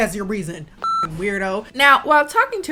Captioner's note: beep